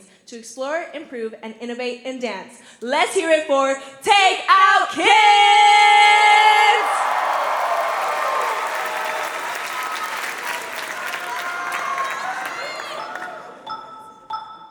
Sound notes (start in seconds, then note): 5.4 cheering; 6.0 applause